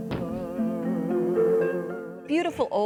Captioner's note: body thumping